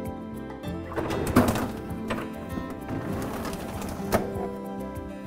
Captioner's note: drawers sliding